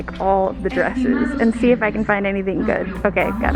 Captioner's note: announcement plays over loudspeaker